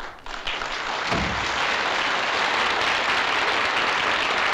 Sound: applause

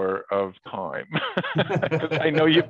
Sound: both laugh

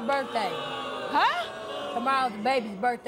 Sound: adience booing

